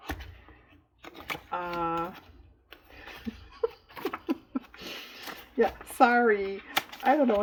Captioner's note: laughs